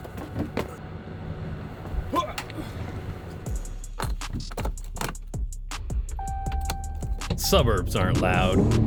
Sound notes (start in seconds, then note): 6.1 ding!